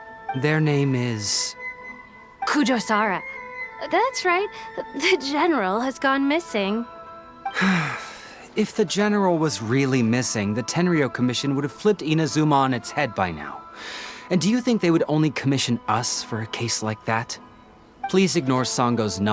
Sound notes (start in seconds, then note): 7.5 sigh